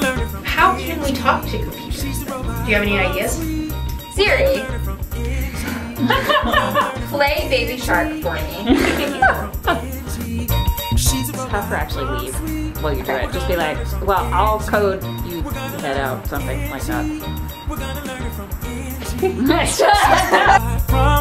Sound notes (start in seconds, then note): 8.0 laugh; 18.9 laugh